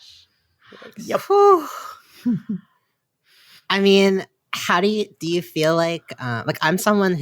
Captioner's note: sighs